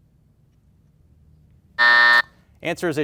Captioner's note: buzzer buzzing